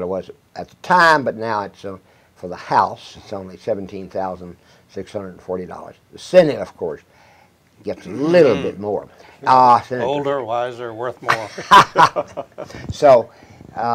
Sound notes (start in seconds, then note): 11.3 chuckles